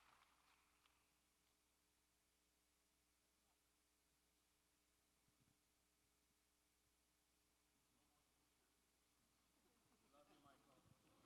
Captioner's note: applause